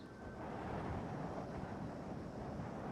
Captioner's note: wind whistles